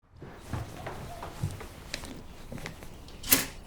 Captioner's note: birds chirping